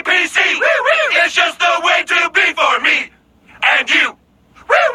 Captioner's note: woo woo; woo woo